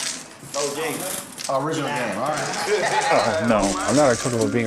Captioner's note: laughing